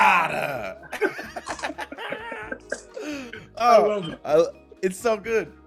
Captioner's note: laugh